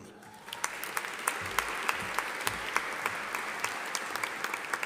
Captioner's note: audience applauding